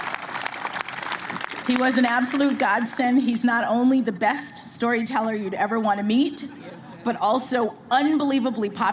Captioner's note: applause